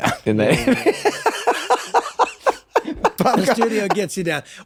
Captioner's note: Glenn laughing